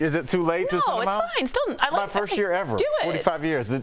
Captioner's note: laughter